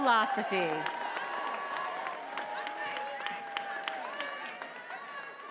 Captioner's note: attendees applauding and cheering